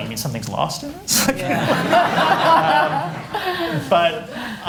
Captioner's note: laughter